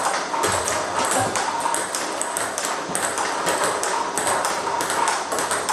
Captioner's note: ball ping pong hitting continues